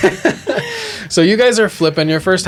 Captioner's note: laughter